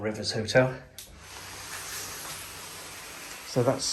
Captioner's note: sliding door scraping